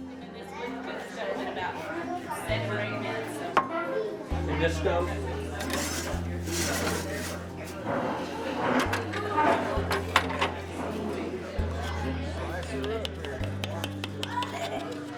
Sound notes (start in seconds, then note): 5.5 people talking. Pan scrapes grill; 11.8 knife strikes bottom of cast iron